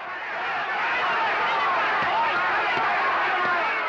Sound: crowd shouting

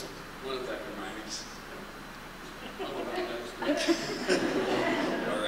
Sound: laughter

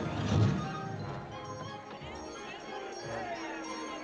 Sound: barkers Chattering, Shouting; bell Ringing

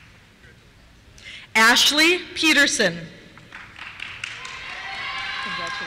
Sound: cheers

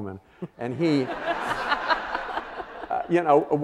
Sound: audience laughing

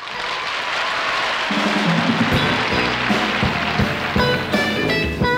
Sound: audience clapping; blues guitar playing

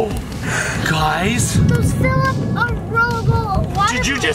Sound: thunder rumbling

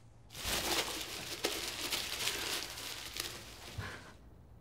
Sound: paper rustling; breathing

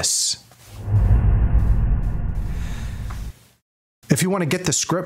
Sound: air whooshing

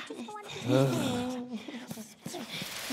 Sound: Burt sighs

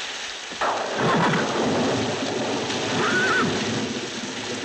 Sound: thunder crashes; horse whinnies

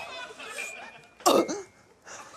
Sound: coughs

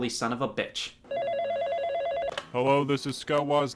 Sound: phone ringing

